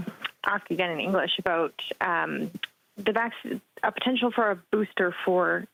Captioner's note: speaking French